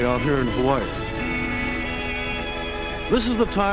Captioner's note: beeping